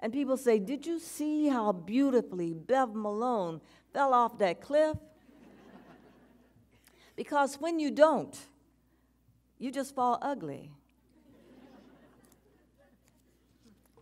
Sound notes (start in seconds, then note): 5.4 audience chuckles